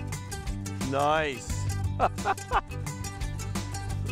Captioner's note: laughing